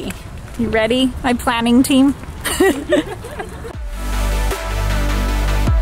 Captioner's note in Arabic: أمي تضحك; موسيقى هادئة